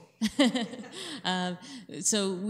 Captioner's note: laughing